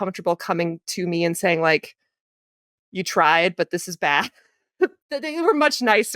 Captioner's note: giggles